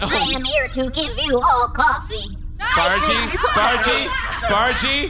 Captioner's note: starts yelling